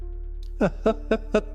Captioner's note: laughs